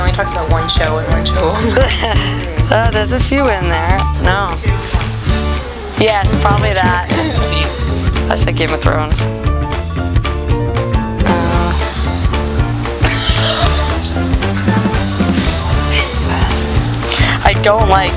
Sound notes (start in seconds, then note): 11.5 laughter; 11.5 whispering